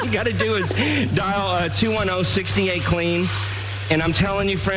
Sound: laughter

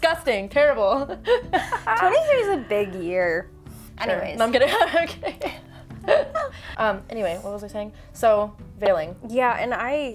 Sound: both laugh

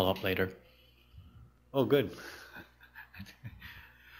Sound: chuckles

